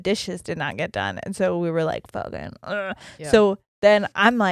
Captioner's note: groans quickly